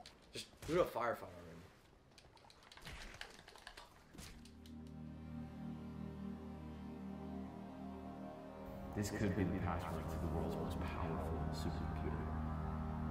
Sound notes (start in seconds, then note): 1.9 controller clicking; 4.8 ominous music